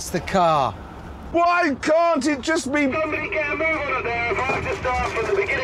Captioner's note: Richard on radio